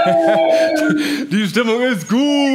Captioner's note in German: Jubel